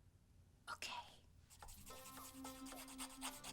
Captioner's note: whispering